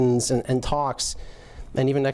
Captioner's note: none